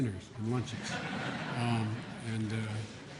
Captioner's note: laughter